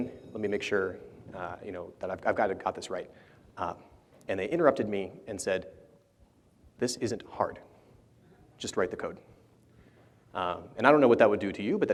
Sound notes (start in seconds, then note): none